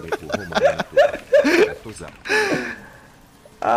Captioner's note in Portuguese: risos